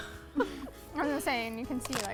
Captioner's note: giggles